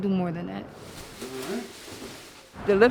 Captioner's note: bag rustling